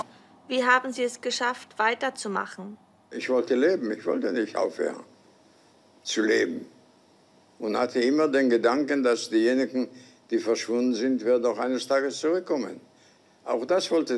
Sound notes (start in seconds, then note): 0.2 woman interviews in a foreign language; 2.9 holocaust survivor answers in a foreign language